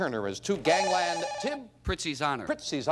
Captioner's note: bell rings